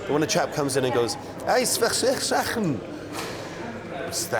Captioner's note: pretending to speak Flemish